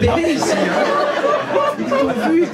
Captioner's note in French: rires public